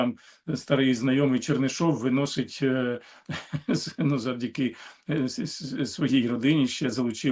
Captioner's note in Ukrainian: прочищення горла